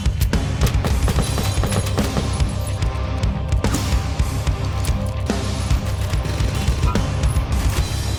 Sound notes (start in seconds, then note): 0.6 muffled pops of gunfire; 3.8 shell ejects with a satisfying slide